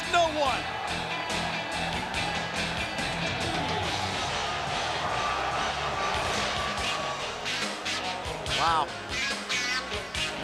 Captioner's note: crowd cheering